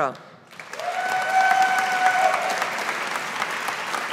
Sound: audience applauding

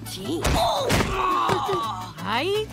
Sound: laughing

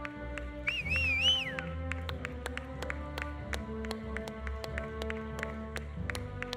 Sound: audience applauding; audience whistling

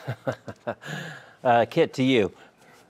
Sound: giggling

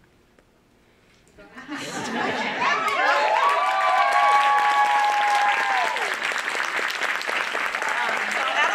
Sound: laugh; applause

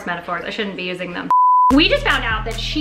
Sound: beep

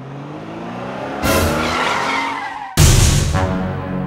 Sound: tires squeal

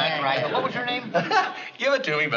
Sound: laughing

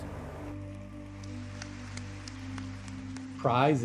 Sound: audience applauding

